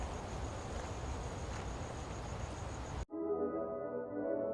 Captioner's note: wind whooshing